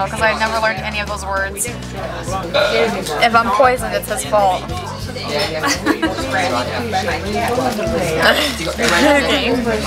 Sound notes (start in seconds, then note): 5.6 laughter